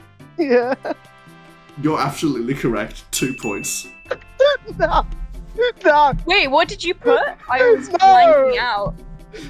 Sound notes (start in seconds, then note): 4.5 shocked gasp